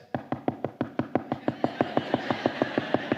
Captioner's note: golpea rápidamente; la congregación se ríe